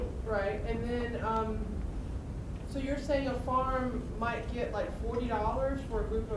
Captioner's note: voiceover